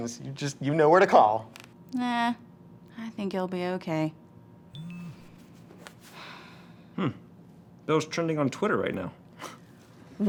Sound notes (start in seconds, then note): 4.7 phone dingles